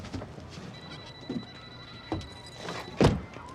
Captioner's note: phone ringing